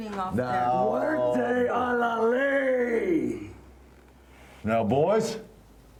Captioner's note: speaks Spanish